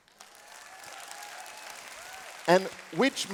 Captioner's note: applause and cheering